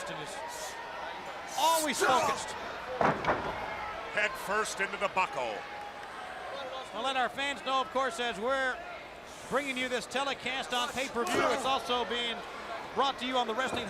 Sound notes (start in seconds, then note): 2.0 crowd chatter